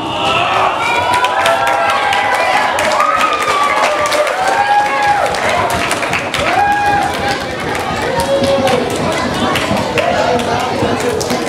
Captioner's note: audience applause